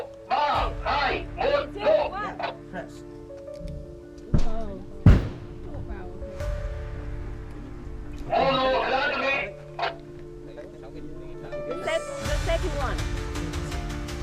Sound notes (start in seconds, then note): 5.0 explosion